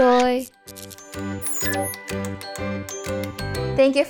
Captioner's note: blip